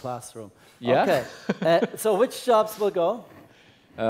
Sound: laugh

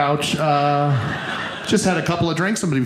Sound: audience laughing

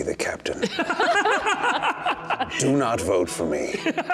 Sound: laughing

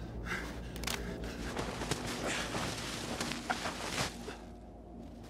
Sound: snow whirring

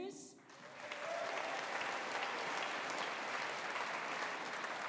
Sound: audience applauding

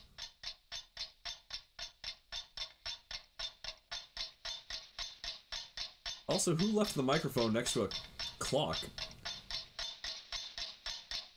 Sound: there's a constant loud ticking, very annoying

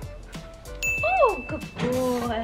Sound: bell dings

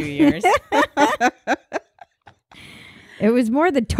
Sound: laughing

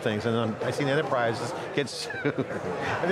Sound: laughing

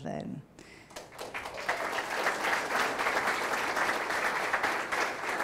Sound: audience applauding

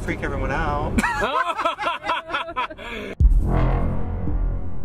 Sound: laugh; scary music

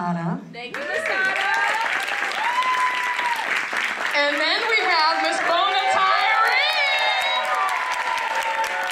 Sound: applause

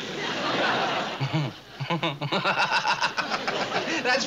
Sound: laughs

